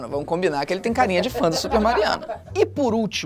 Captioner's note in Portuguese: risadas